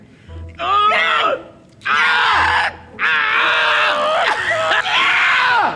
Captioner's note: doctor straining; Max moaning